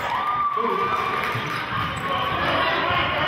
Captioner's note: cheering